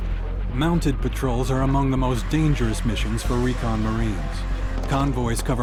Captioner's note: voiceover